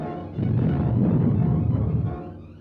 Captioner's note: explosion